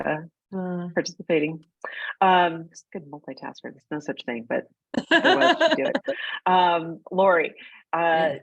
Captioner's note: laughing